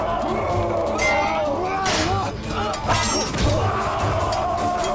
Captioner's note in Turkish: Kılıç sesleri